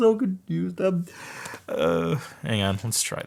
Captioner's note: sobbing sounds